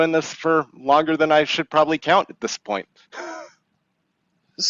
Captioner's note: chuckles